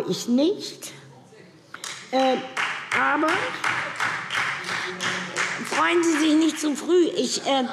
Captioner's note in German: Beifall Freie Demokraten